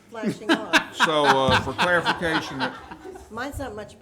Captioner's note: some laughing